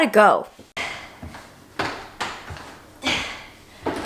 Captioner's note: clanking; grunting